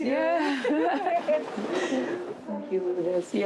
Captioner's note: laughs